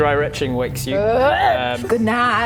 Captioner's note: dry heave